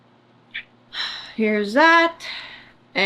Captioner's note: sighs